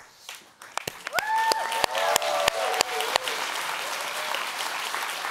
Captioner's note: audience applauds